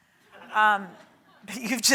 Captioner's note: audience laughs